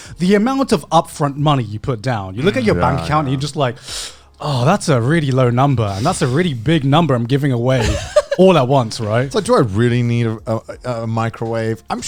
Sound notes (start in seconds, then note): 2.4 sighs